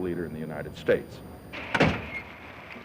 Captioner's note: car door closes